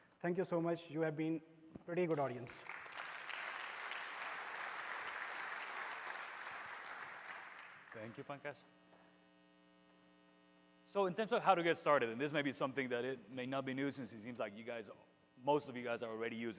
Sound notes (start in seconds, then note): 7.1 applause